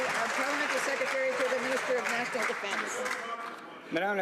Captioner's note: some Applause